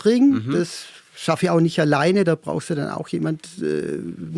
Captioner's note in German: none